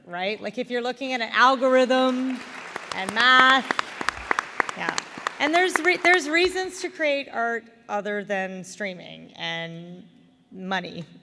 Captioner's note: applause